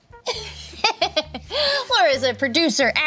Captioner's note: laughs